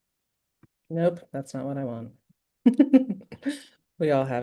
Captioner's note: laughs